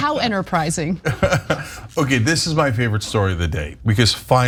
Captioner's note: laugh